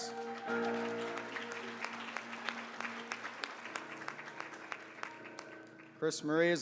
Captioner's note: applause